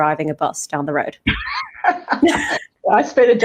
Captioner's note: both laugh